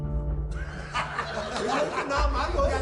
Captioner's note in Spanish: Risas